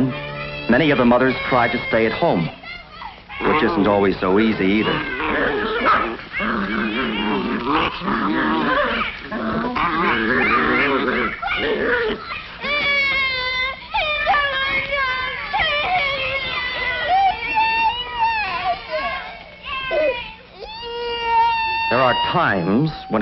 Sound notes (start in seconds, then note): 4.9 dogs snarling; 8.0 children shrieking; 15.5 children whining loudly; 18.3 child crying